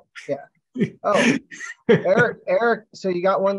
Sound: laughter

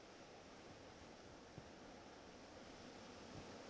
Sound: wind whistles

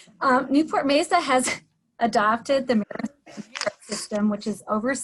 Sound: voice distorted

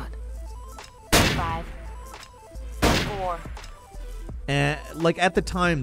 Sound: guns blasting

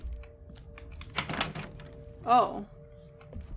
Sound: door Rattles

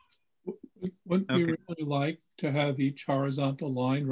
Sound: bold Voice

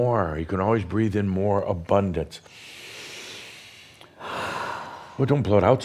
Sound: they take a deep breath together

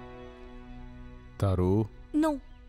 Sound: none

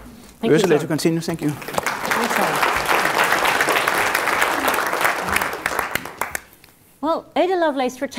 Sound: applause

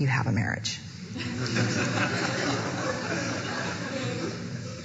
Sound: audience laughing

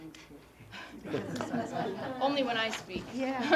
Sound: laugh

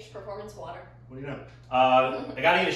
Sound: giggling

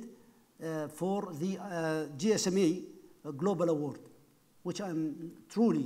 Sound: speaking foreign language

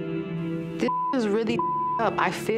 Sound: beep

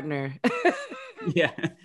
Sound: both laugh

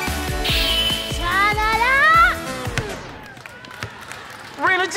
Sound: anime transformation music; exclaims

